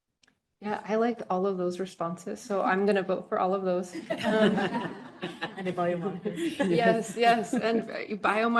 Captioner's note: laughter